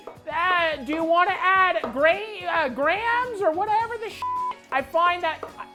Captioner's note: beep